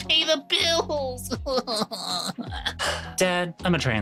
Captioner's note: crying